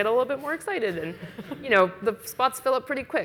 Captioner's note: audience laughs